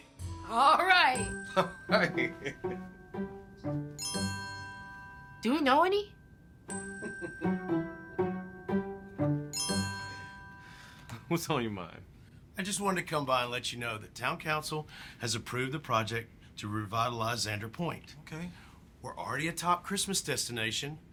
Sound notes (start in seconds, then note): 1.4 chuckles; 1.9 laughs; 2.7 playful music; 7.0 James laughs